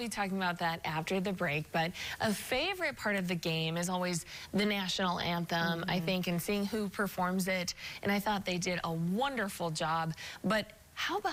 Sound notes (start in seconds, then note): none